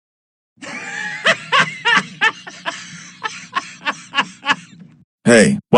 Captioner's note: Charlie and Vaggie laughing at Boris